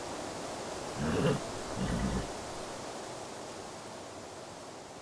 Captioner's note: horse neighs